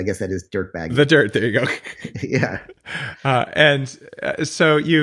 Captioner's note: laughs